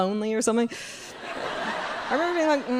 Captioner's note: crowd laughing